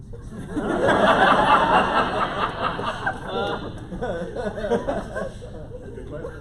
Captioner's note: laughter